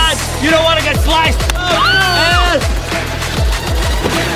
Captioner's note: cheering